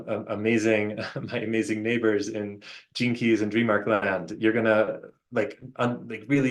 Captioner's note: chuckles